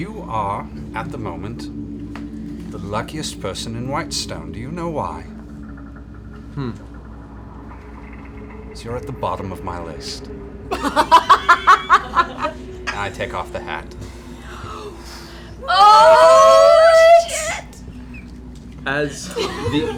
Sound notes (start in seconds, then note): 10.7 laughter